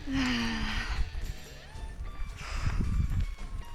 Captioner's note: sigh